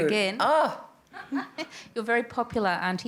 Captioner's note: laughter